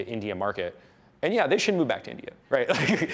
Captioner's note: laughs